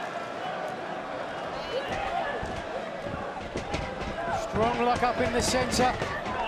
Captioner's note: crowd chatter